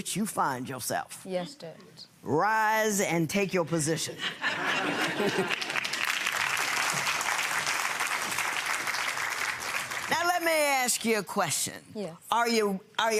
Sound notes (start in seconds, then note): 4.2 audience laughing; 7.3 audience applauding